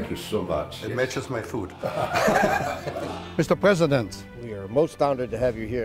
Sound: laughter

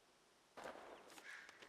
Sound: gunshot

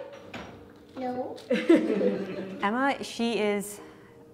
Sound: laughter

